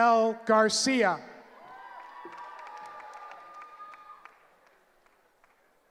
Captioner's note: cheering